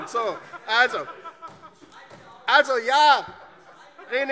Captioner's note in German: Heiterkeit